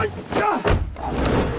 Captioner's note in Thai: เสียงปิดประตู